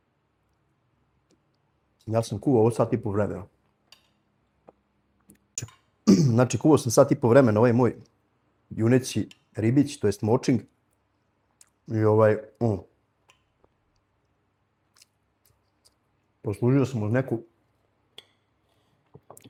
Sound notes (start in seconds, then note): 6.0 he coughs